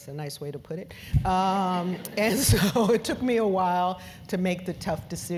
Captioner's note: laugh